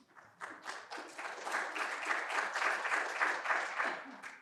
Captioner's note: audience applauding